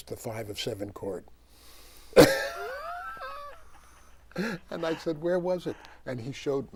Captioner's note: laughs